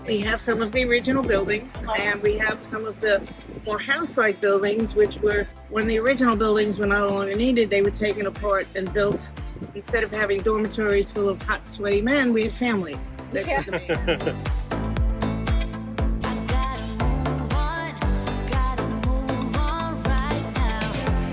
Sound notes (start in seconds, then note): 13.4 chuckling